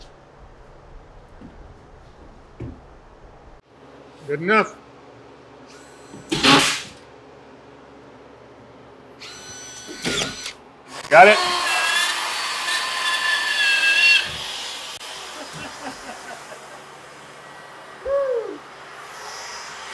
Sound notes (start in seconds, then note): 6.3 nail gun sounds; 10.9 saw buzzing; 15.2 laughing